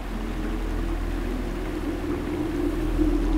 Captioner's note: Water running